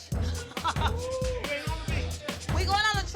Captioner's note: laughs